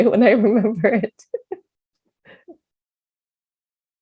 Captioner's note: chuckles